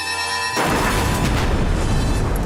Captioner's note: explosion